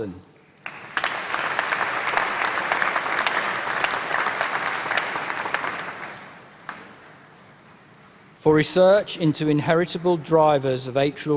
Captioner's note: applause